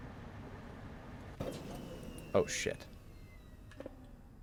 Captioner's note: power dies